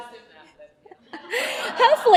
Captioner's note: laughter